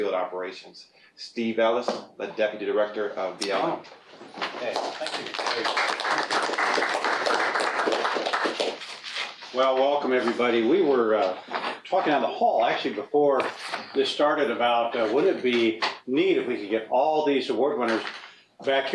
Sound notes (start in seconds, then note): 4.6 applause